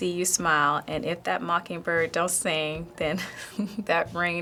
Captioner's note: giggles